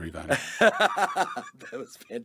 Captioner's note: laughs